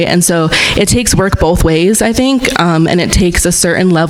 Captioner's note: none